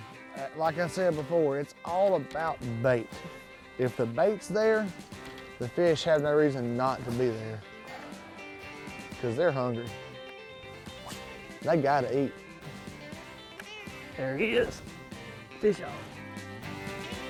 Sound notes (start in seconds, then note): 10.8 fishing pole whips